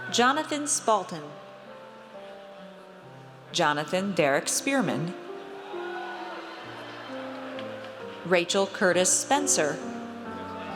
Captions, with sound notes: Jonathan Spalten. Jonathan Dereak Spearman. (audience cheers) Rachel Curtis Spencer.